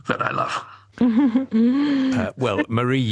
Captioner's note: laughs